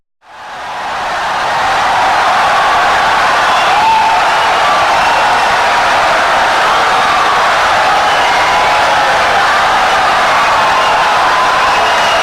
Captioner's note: wild applause and cheering for 17 seconds